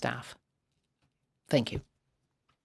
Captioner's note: speaking French